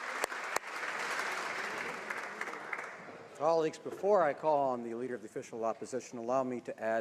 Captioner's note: applause